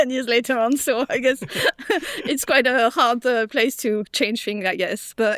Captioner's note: laughs